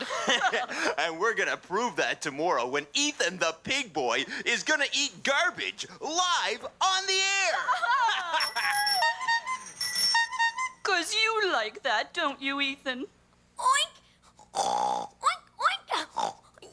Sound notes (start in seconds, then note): 0.0 laugh; 7.4 laugh; 8.3 bell ringing; 9.5 horn tooting; 14.4 Ethan oinking and snorting